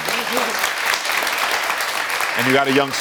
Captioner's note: audience applauding